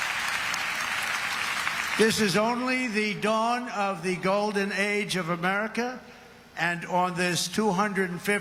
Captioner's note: applause